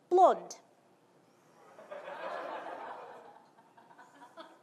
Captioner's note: audience laughing